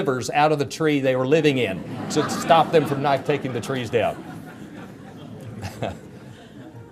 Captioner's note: chuckles